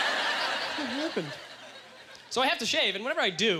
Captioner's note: audience laughter